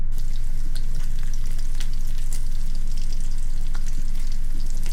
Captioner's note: tap water trickles